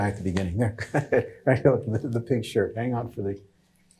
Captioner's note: chuckles